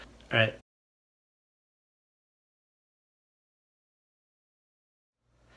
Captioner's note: English speaking